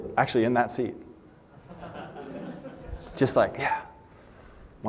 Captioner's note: laughter